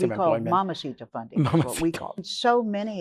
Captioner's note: laughs